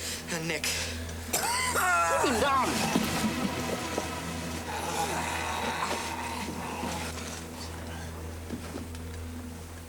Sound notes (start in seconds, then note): 1.1 dramatic music; 1.4 man wailing